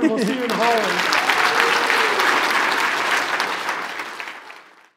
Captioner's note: applause